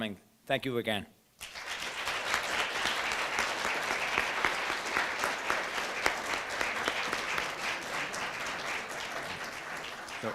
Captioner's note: applause